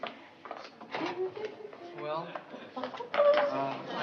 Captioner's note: humming